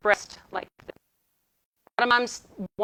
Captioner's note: audio distorting